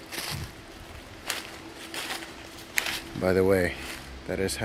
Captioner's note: leaves crunching